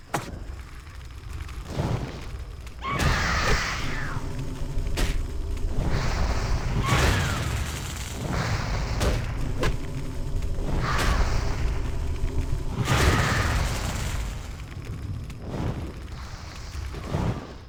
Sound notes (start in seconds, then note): 12.8 crickets chirping